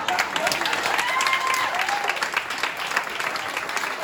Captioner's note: applause